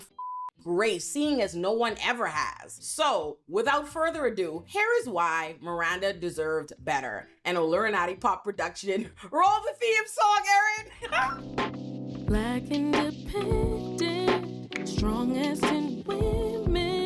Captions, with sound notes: (beep) grace seeing as no one ever has. So without further ado, here is why Miranda deserved better. And a Lura Nadi pop production. Roll the Them song, Erin! (laughs) Back in dependent Strong as in women